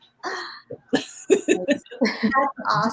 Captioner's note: laughter